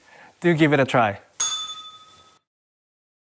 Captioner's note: bell rings